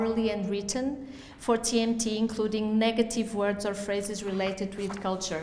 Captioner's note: none